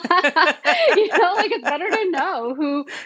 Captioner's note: both laughing